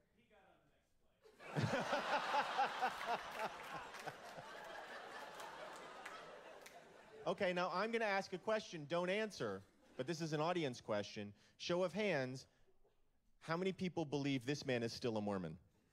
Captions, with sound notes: [laugh] [laughter] Okay, now I'm gonna ask a question. Don't answer, but this is an audience question. Show of hands... How many people believe this man is still a Mormon?